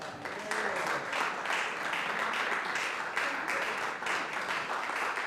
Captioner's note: audience applauding